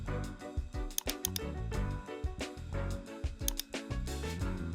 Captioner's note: mouse clicking